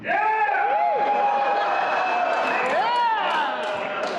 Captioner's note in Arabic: عدد قليل من الهتافات المتفرقة والمعزولة من الحشد